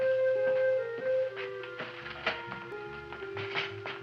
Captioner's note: feet thumping